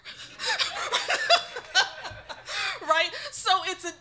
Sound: laughing

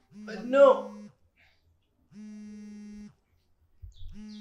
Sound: phone vibrates

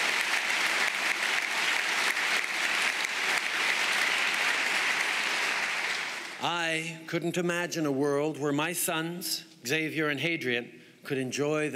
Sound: applause

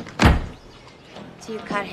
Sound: door closes

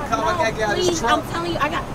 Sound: man arguing

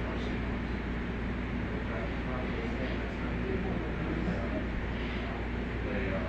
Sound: chatter

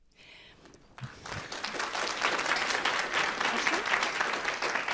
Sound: applause

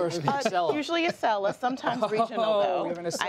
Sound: laughter

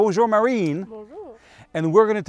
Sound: speaking foreign language

